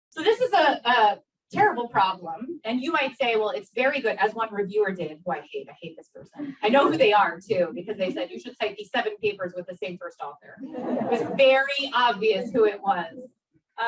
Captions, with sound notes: So this is a terrible problem. And you might say well it's very good as one reviewer did who I hate. I hate this person. I know who they are too because they said you should cite these seven papers with the same first author. (audience laughs) It was very obvious who it was.